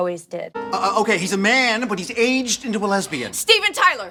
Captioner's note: stutters